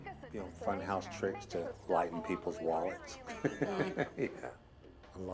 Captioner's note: laughs